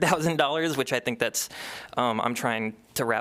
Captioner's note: laughter